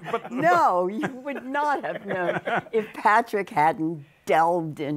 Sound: laughs

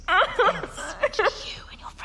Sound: crying

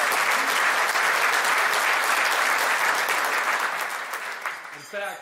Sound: applause

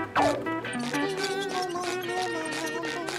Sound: humming

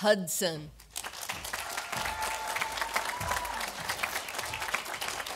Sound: audience applauding

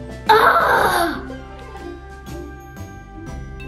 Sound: groaning

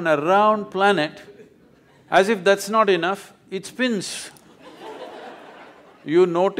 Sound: laughter

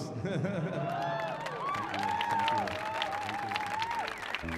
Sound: laughing; audience cheering

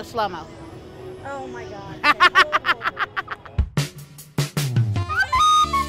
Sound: laughs

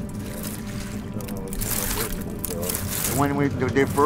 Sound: oyster shells scratching

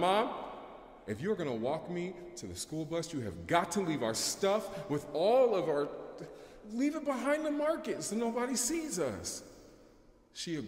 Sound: brief stammer

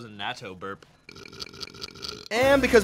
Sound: repetitive belching

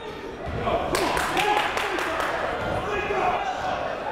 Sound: clapping

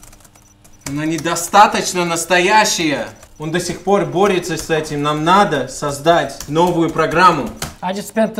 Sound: speaks in Russian

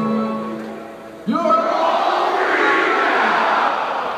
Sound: crowd

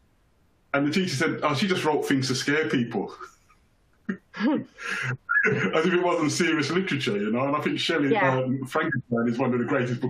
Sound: chuckles

